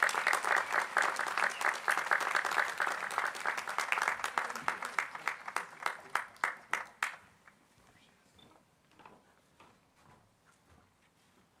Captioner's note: applause